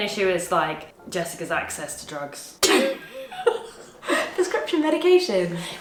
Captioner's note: laughs